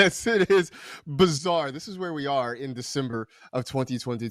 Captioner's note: laughs